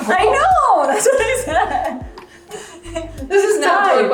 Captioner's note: laughing